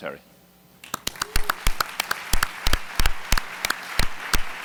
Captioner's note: applause